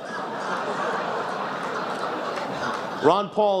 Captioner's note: laughs